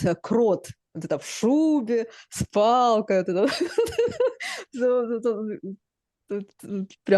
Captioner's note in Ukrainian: сміх